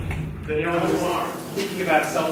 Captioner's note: speaking faintly